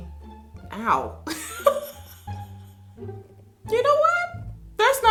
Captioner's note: laughs